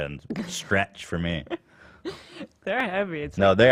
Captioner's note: laughs